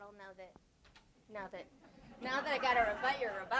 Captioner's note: audience laughs